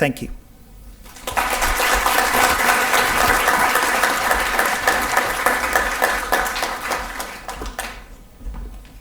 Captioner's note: audience applause can be heard